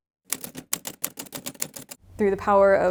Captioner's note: letters clacking